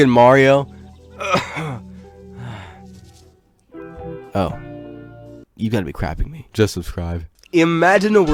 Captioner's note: coughs